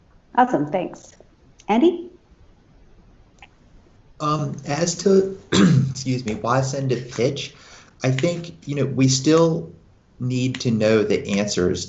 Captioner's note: coughs